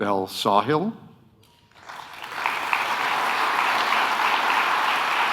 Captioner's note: audience applauding